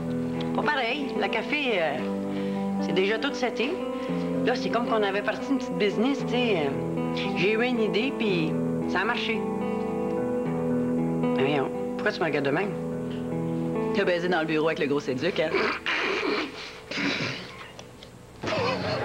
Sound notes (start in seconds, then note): 15.7 Rires